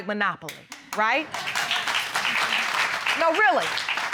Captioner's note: audience applauding